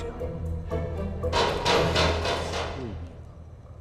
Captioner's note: sound of metal